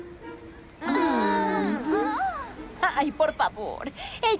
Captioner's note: questioning murmurs